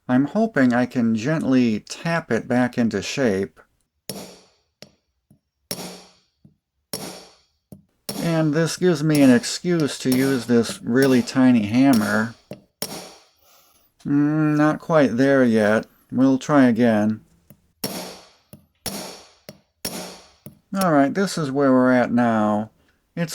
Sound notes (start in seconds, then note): 4.1 tapping sounds; 16.6 tapping sounds